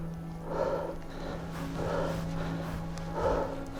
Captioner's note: panting heavily